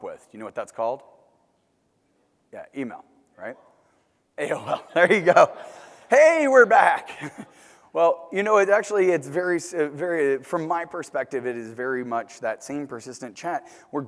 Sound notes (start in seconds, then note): 4.4 laugh